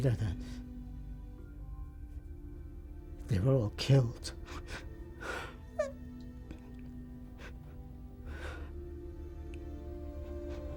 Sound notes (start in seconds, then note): 7.2 sobs